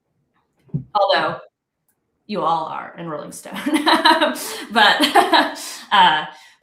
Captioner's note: laughs